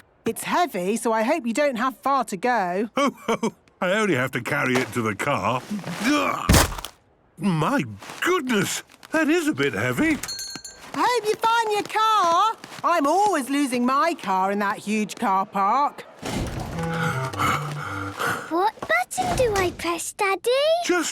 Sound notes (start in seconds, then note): 6.4 thuds; 16.3 Daddy Pig panting